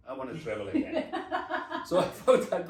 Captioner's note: laughs